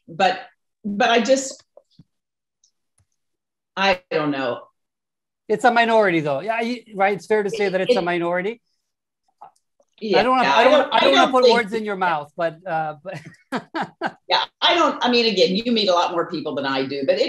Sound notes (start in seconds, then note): 13.2 laughing